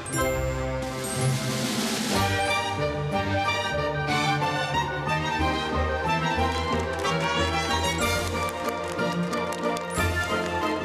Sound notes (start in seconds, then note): 6.9 applause